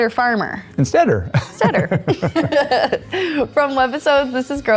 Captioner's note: laughs